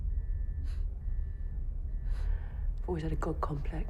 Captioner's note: gasps